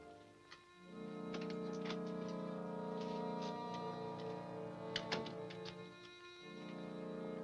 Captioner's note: dramatic music continues; gentle music; latch clicks